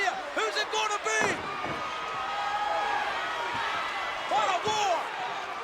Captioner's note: crowd yelling